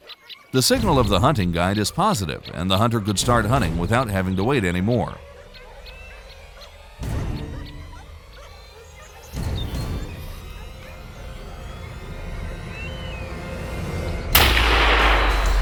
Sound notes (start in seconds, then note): 6.5 dogs barking; 6.5 tense music; 14.3 gunshot